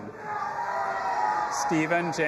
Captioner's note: audience applauding and cheering